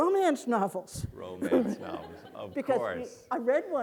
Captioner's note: audience laughing